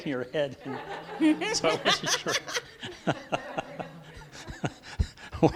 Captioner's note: laughing